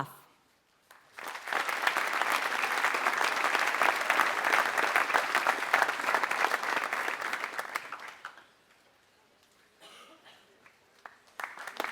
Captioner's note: applause